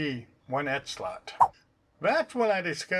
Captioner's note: swipe sound